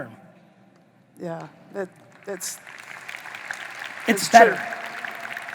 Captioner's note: audience applauding